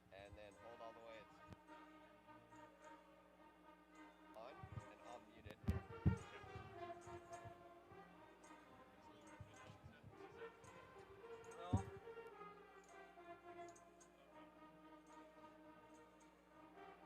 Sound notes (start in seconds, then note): 7.2 bright band music; 10.1 background chatter